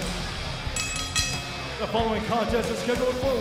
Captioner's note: bell ringing